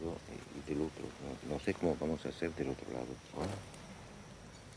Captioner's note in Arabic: الصوت المنطوق باللغة الإسبانية